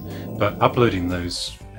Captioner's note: dog growling